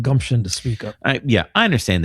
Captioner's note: uh